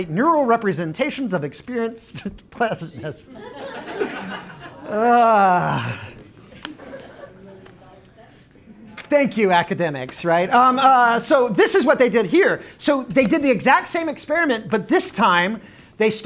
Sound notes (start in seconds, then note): 3.2 audience Laughing